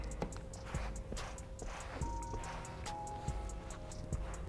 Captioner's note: cloth scratching